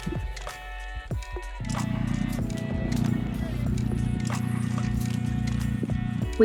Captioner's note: narrowboat engine sound